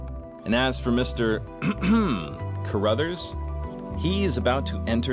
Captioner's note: clears throat